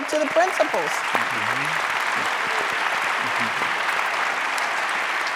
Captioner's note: audience applauding